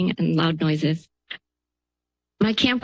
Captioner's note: pause